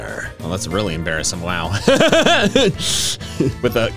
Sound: laughs

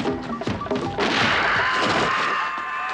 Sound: screaming

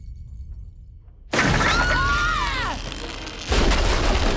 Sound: screaming

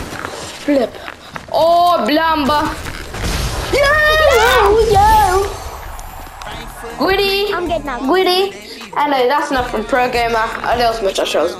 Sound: cheering

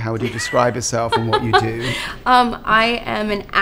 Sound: laughs

